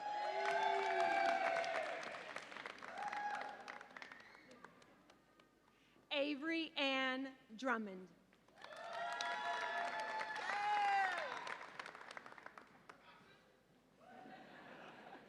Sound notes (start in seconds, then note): 0.0 audience applauds and cheers; 8.5 audience applauds and cheers